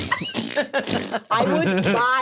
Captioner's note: all laugh